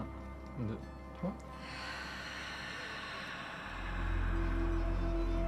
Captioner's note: exhalation